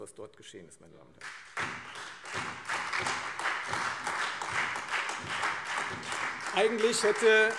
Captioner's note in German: Beifall Freie Demokraten, AfD und vereinzelt CDU, SPD